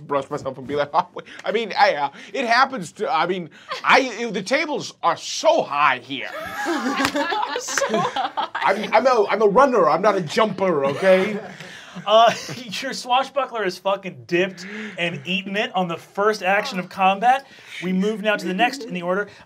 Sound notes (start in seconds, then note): 6.2 laughing